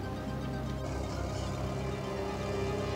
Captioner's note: machine engine running